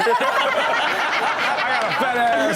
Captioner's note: all laugh